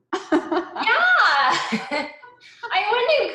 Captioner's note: laughs